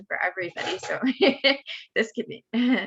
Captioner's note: laughs